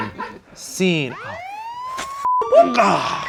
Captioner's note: police siren